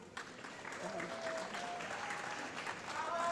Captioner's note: applause